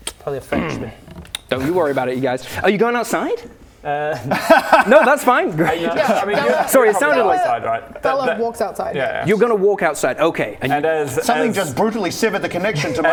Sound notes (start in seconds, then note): 4.1 lols